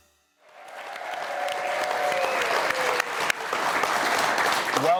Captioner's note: audience applauding